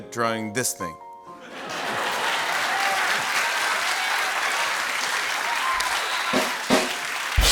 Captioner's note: laughter and applause